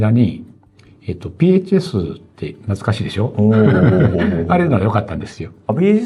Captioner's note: laughs